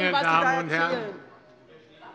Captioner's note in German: Lebhafte Zurufe von der CDU